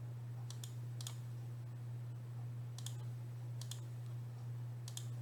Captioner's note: mouse clicking